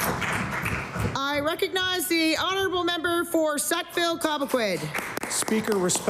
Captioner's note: applause